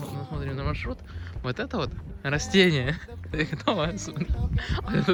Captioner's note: laughing